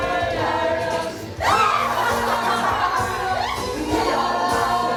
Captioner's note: The Masters evil laugh